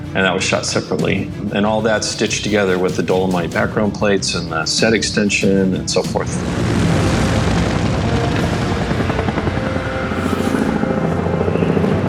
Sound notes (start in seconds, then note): 6.4 helicopter chuffing; 9.0 adventurous music